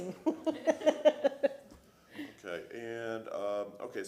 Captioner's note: laughter